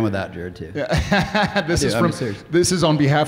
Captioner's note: Jared laughing